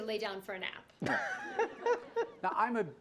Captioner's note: laughter